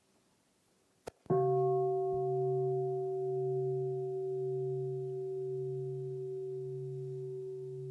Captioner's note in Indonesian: Bunyi genta